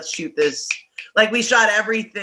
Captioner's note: snapping